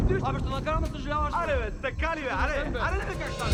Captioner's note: arguing